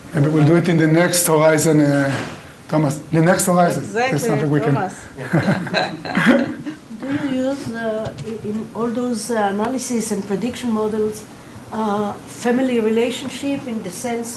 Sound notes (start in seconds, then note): 7.0 laughing